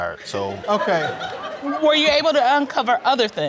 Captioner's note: audience laughs